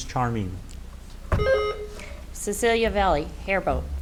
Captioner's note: buzzer beeps